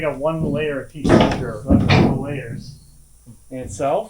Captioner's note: wood clanking